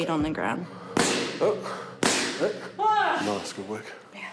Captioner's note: groans